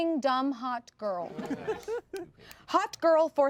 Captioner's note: everyone laughs